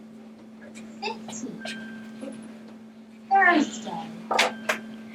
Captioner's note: computerized Voice